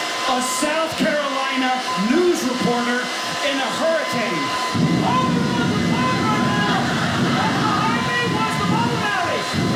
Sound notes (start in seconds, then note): 6.3 audience laughing